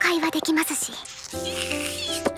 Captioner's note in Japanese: ジュースを飲む音